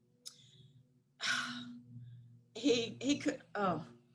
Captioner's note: sighing